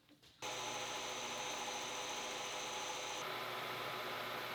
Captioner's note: machine humming